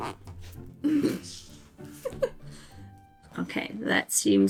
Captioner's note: laughs